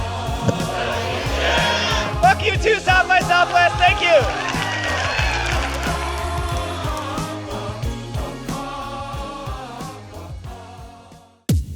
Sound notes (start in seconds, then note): 4.4 audience cheering; 6.0 upbeat music